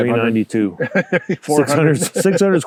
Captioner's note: both laughing